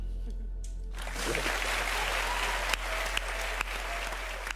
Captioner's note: audience clapping